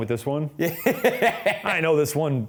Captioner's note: laughing